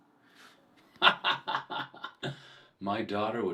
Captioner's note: detective laughs